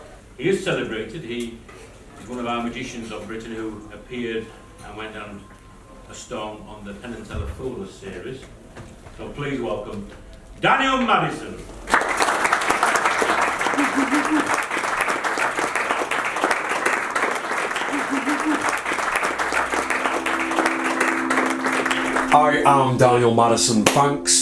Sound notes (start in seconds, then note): 11.6 applause